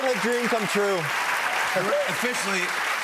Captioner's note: cheers and applause